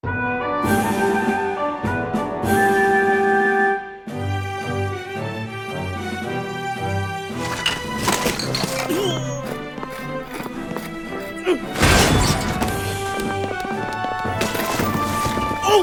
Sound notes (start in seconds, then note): 6.6 objects clatter; 7.4 groans; 10.5 grunts